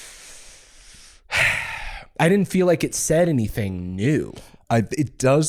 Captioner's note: sighs